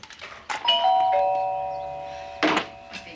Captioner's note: doorbell rings